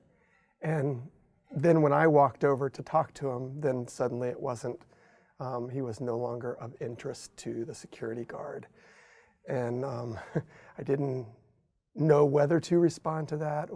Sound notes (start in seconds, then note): 9.9 chuckles